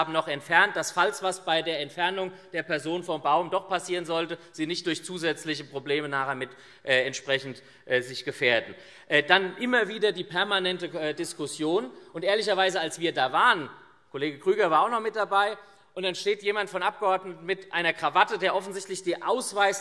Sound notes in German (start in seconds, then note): none